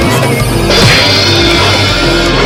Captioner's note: smack!